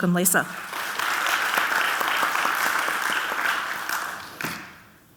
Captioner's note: audience clapping